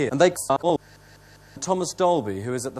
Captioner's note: excessive inhaler breathing